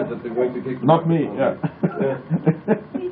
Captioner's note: laughing